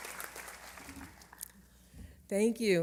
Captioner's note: applause